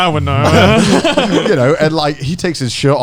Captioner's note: Joey and Garnt laughing